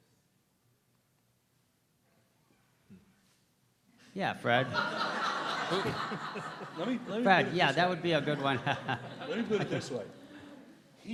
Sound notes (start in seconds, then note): 4.7 laughs